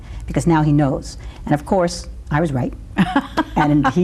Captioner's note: laughs